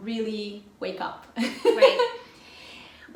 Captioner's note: loughs